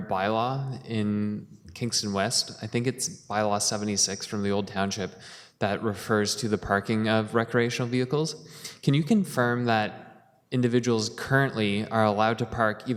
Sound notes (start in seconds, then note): none